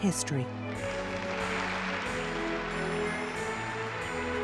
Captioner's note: applause